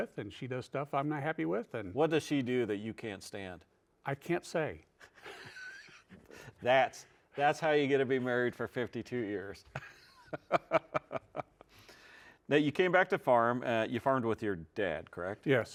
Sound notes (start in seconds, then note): 9.7 laughs